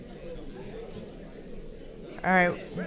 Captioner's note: paper crinkling and audience chattering